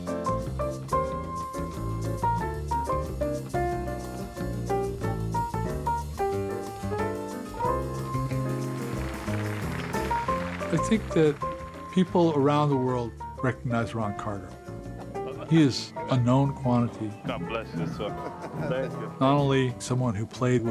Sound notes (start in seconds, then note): 0.3 upbeat jazz music; 7.7 audience applauding